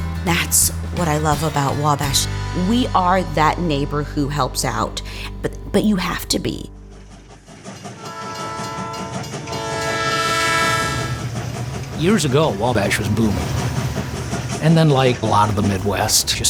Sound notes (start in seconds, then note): 7.9 train whistle